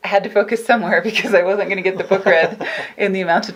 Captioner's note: laughing